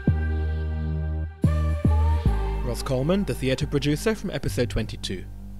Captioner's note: voiceover